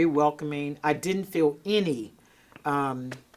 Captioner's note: hands tapping